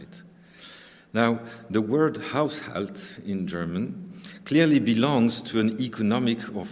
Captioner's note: german